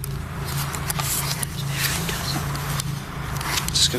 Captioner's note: whispering